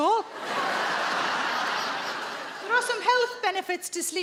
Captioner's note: audience laughing